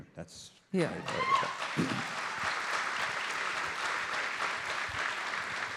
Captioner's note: audience applauds and cheers